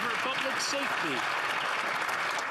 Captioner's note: some Applause